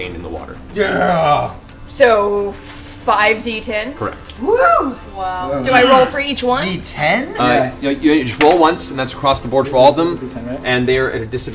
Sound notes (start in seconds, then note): none